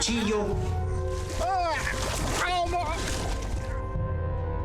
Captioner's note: groaning